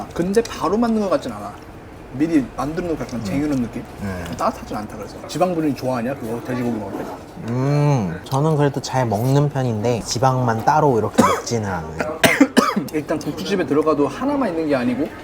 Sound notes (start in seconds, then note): 11.0 cough